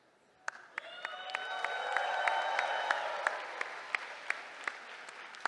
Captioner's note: cheering